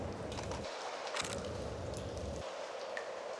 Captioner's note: camera shutter clicking